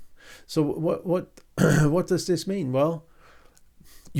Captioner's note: clears throat